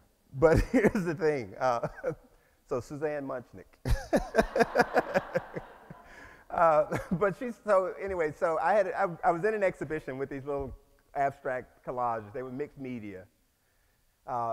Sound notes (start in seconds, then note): 3.9 laughs